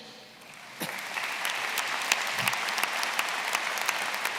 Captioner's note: applause